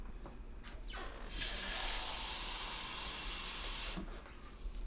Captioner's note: water gushing